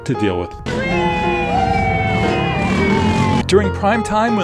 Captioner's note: drivers cheering